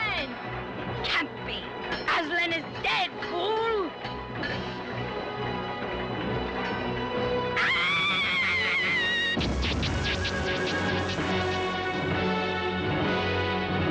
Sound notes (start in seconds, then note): 7.5 witch screams